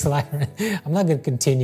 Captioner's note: laughter